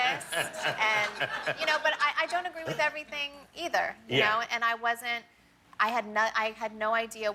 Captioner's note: laughter